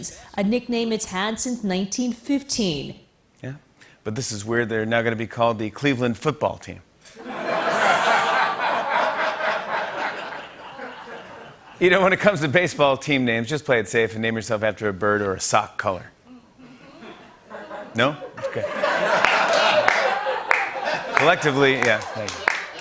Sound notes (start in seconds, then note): 7.2 laughter; 16.6 light laughter; 16.9 laughter